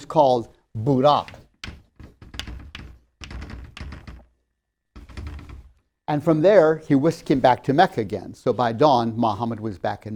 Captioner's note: sound of horse hooves